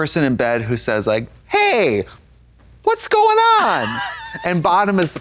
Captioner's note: Katya snickers